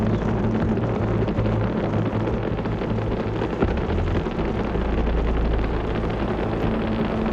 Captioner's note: rocket continues roaring